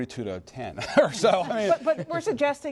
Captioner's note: chuckles